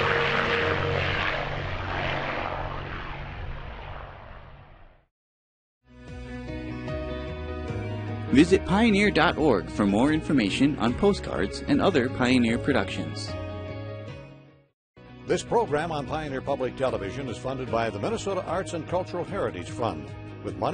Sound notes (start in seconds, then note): 8.5 voiceover; 15.5 voiceover